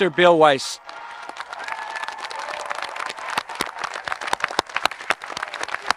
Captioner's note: audience applauding and cheering